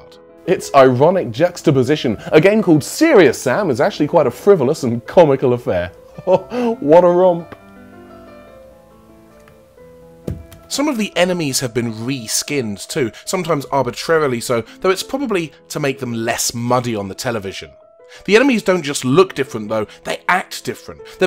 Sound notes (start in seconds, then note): 10.3 drops controller